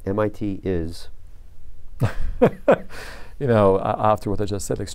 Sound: laughter

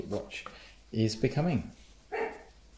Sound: Bella barks!

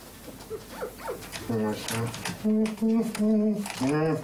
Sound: Walter humming

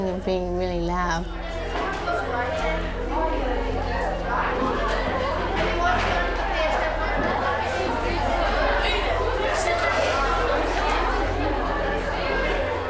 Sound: crowd noise

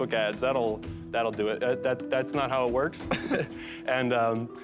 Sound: laughs

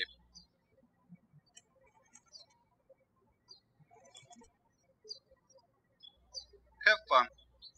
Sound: birds chirping

